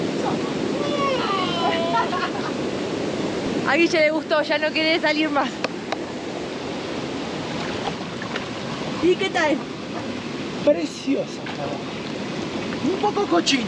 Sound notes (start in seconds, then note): 0.7 yells; 1.6 laughs